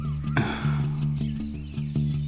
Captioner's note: Sighs